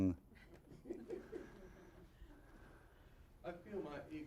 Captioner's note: audience chuckling